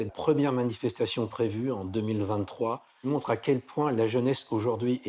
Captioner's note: speaking in foreign language